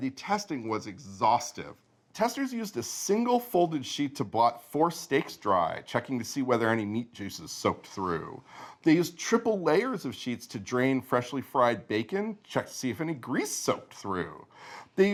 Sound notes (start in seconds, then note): none